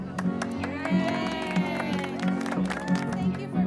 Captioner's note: applause, cheering